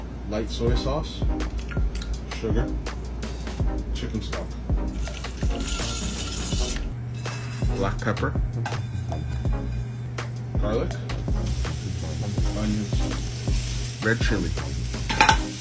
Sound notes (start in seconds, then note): 5.2 upbeat music; 10.8 sizzling sound